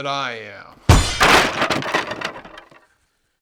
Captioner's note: crash!!